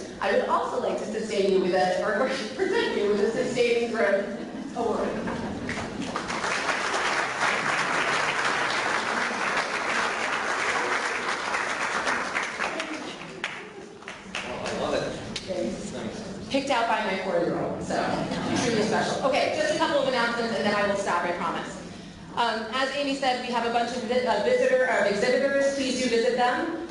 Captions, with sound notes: I would also like to present you with a sustaining growth award (Clapping) Oh I love it. Picked out by my four-year-old so truly special. Okay just a couple of announcements then I will stop I promise. As Amy said we have a bunch of exhibitors please do visit them.